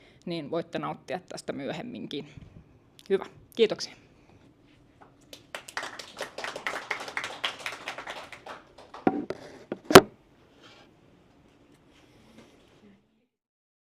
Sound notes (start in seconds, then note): 5.3 applause